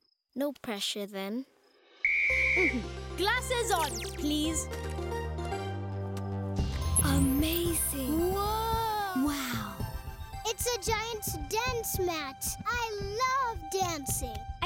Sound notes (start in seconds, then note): 2.0 whistle blowing; 4.8 upbeat playing